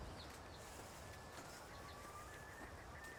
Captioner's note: birds chirping